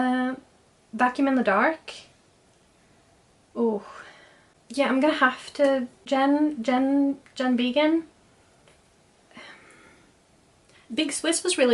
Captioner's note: sighs